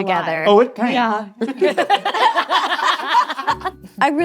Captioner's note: all laughing